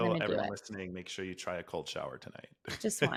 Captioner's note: laughs